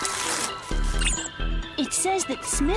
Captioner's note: beeping